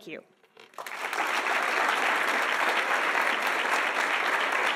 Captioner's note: audience applauding